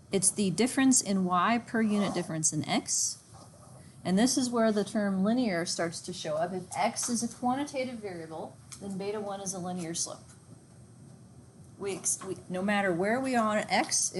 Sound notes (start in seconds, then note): none